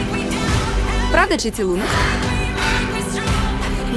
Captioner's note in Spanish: gemidos